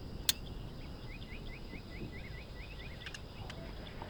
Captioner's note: gun clicking